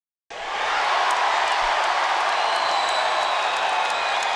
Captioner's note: crowd cheering